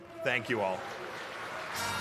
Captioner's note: applause